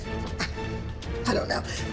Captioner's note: chuckles